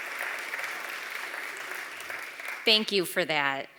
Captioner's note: applause